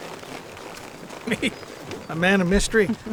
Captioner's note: chuckles